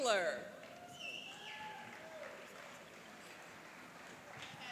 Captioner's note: cheering and applauding